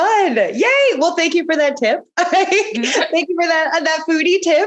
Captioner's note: laughing